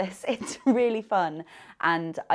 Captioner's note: laughing